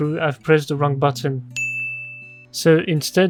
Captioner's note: ding of dumbness